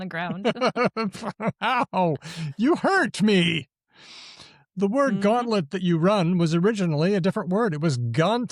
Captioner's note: laughs